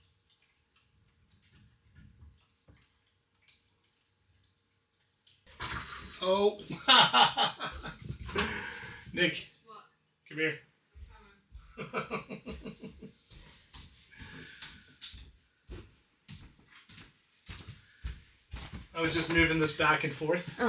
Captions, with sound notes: (water splashing) Oh, (laughs) Nick, come here. I was just moving this back and forth,